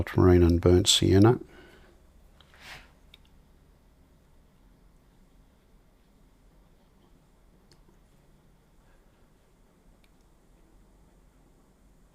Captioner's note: silence